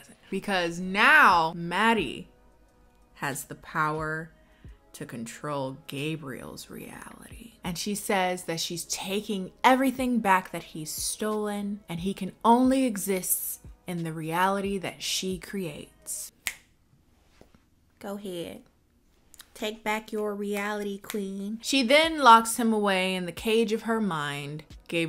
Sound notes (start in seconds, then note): 16.4 snaps